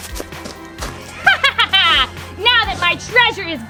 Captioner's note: laughs